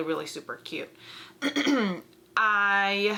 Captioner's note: clears throat